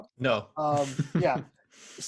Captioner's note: laughs